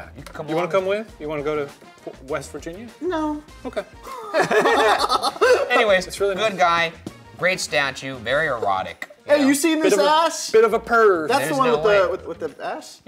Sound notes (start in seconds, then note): 3.6 laughing